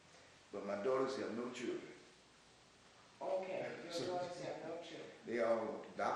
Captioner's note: laughs